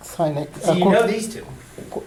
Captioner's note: voiceover